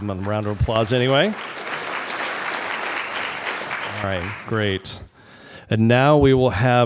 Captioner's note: applause